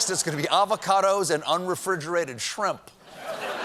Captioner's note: laughter